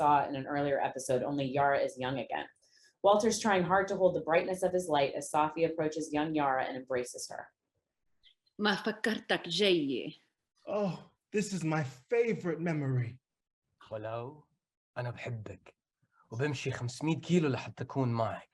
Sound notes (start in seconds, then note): 8.4 speaking in foreign language; 14.1 speaks in foreign language